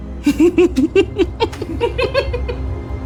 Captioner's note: laughing maniacally